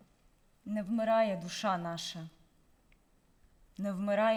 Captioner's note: speaking in Ukrainian